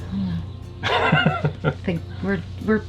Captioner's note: laughing